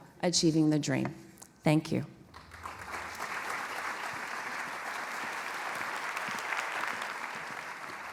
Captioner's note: applause